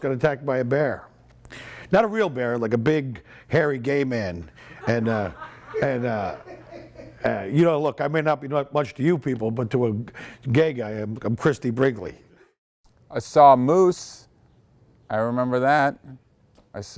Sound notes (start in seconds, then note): 4.6 people laughing